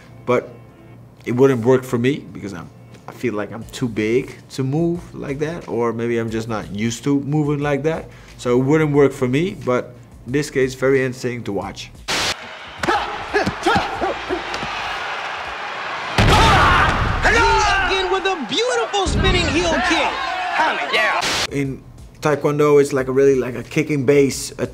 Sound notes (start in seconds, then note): 12.1 static crackles; 12.2 crowd cheers; 12.8 both exclaim